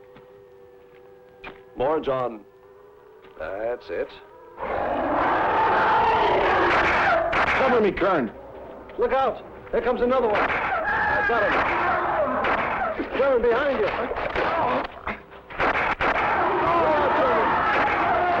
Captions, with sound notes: More, John. That's it. (monster soaring) (gunshots) Cover me, Kerns! Look out! There comes another one! I've got him! (gunshots) Kerns, behind you! No, Kerns!